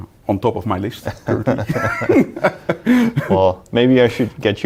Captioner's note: both laughing